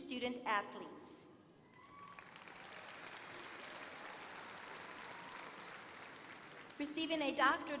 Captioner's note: applause